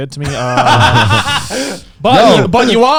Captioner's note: laughs